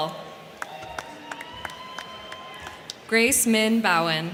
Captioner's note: crowd cheering; crowd clapping